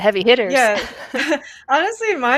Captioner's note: laughter